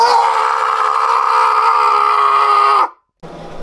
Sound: Violet screams intensely

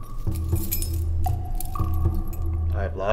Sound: keys jingling

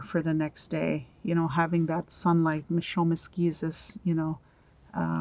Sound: speaking in Anishinaabemowin

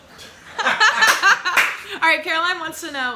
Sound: laughing

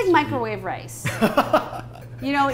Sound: laughing

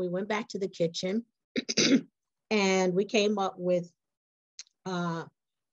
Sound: cough

